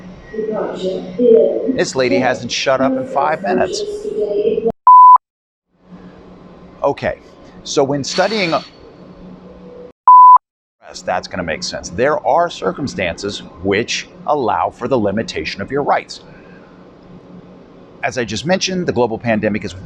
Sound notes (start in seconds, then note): 0.3 announcement In German; 8.5 loud air brakes in background